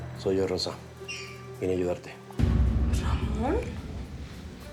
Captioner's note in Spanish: none